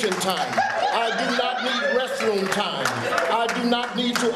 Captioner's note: crowd laughing